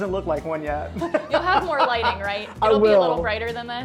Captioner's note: laughs